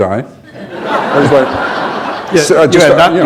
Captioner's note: laughter